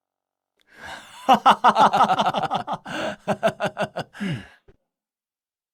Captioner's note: laughs sinisterly